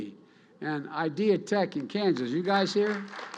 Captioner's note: applause